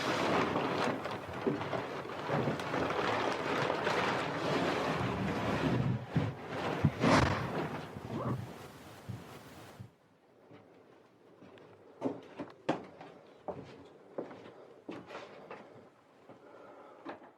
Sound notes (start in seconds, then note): 7.0 door slams; 11.6 footsteps